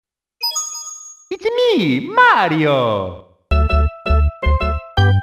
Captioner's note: coin SFX